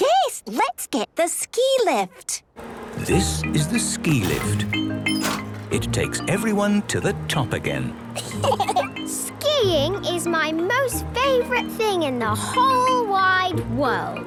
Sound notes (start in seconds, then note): 8.2 laughter